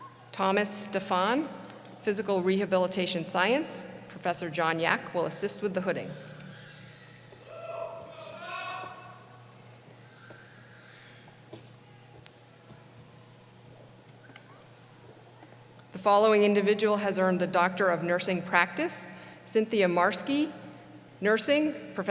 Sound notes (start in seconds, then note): 7.4 cheering; 7.7 voiceover